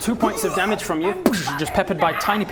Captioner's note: boosh!